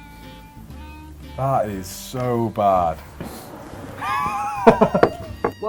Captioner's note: laughs